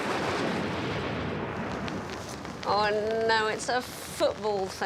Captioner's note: thunder rumbling